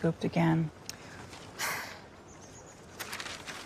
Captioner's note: sighs